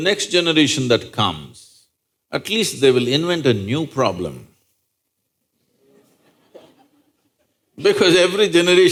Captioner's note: few laugh